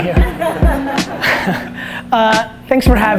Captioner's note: laughter